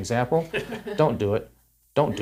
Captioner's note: both laughs